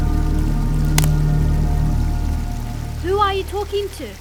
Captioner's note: branch cracks